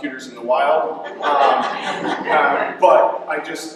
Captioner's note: laughter